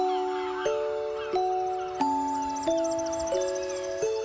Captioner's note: Aves graznando